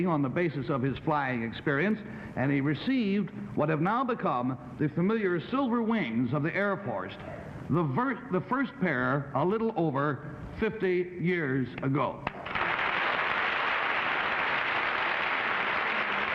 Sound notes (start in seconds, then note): 12.2 applauding